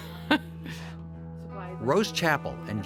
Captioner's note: laughing